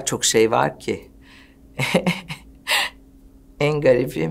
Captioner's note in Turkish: Güldüler